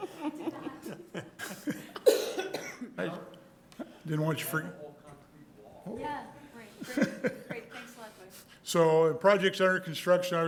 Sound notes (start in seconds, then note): 0.0 soft laughter; 2.4 speaking softly; 6.8 soft laughter